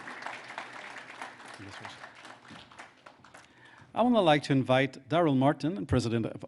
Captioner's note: applause